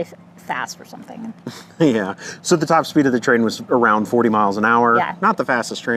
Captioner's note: haha